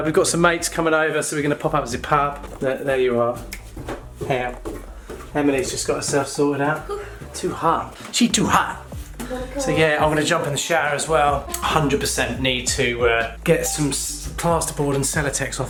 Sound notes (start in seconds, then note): 3.4 snaps